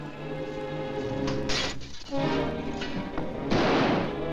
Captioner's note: glass breaks; gun firing